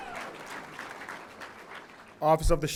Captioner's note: audience applauding